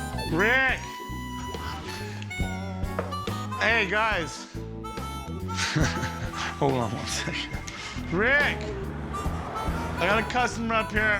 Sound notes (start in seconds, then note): 5.5 chuckles